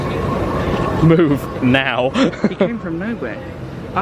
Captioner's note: laughing